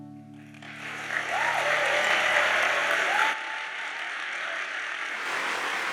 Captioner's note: audience cheers and applauds